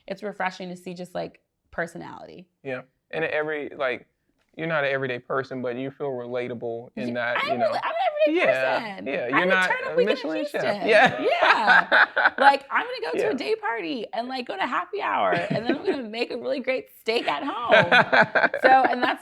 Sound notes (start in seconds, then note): 11.3 laughs